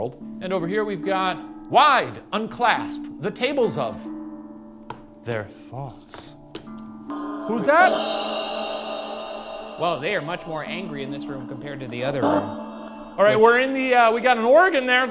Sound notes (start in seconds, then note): 7.8 device thrums